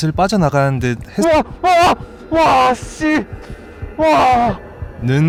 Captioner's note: screaming